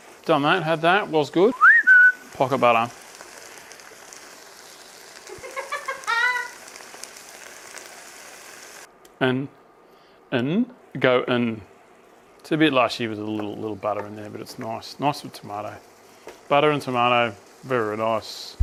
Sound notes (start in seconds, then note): 1.4 whistles; 5.2 laughs